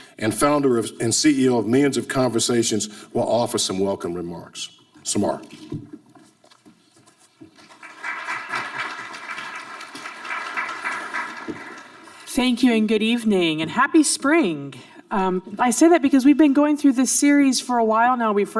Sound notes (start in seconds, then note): 7.6 audience applauding